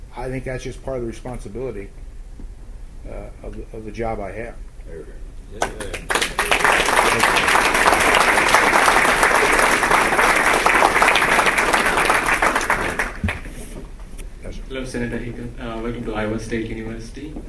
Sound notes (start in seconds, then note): 5.6 applause